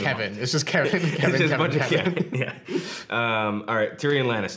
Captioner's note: laughing